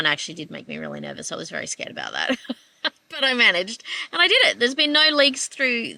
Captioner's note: laughs